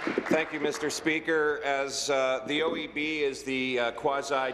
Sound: applause

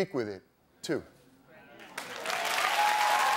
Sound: audience cheering

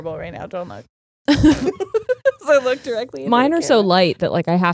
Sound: both laughing

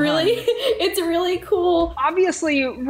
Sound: laughs

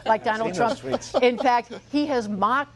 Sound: laughter

